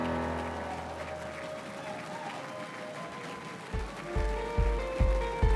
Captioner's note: crowd cheering and applauding